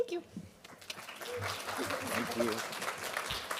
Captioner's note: applause